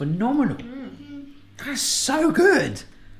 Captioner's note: murmuring in agreement